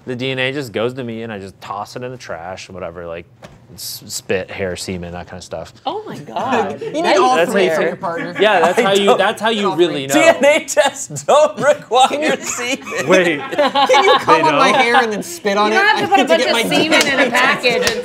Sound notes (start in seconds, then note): 10.5 laughs; 13.4 group laughing